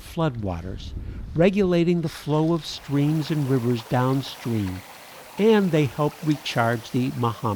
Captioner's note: water flowing